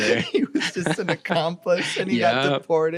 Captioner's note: laughing